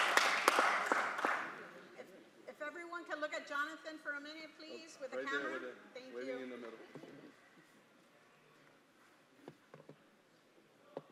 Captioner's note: applause